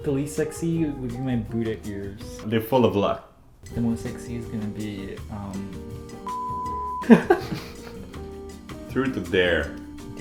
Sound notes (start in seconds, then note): 6.2 beep; 7.0 laughs